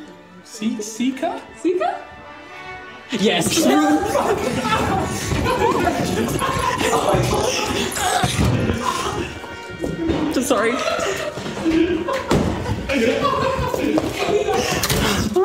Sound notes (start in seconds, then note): 3.2 commotion, shouting; 14.7 door slams shut